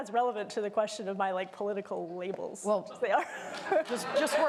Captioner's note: applause